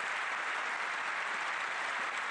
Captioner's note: applause